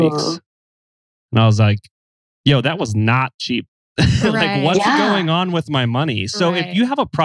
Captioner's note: laughs